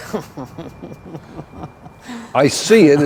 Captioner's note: Sergeant Yeshua laugh